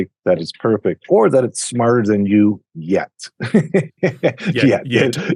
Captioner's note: laughs